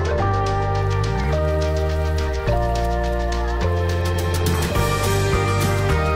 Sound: water spraying

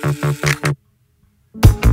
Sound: click

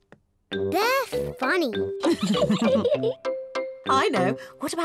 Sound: laughs

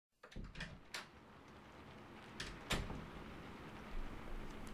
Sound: door opens and closes; rain ambience throughout

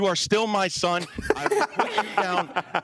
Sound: laughing

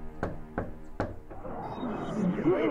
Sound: knock on door

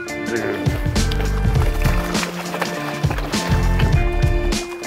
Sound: water splashing

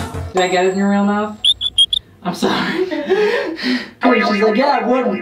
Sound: squeaks

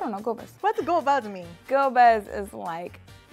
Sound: speaking Amharic; Amharic

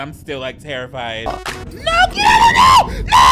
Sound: video buzzes

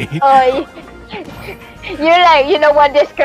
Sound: chuckles

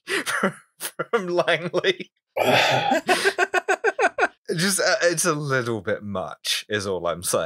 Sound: laughter intensifies

